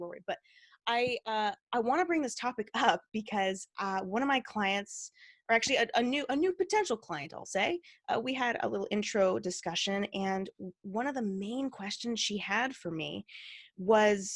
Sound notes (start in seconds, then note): none